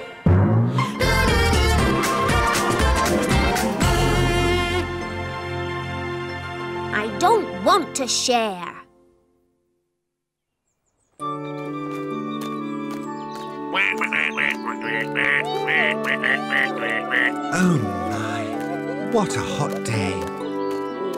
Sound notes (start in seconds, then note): 13.6 quacks